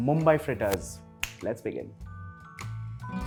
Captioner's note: snap